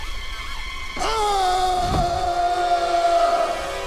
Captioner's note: screaming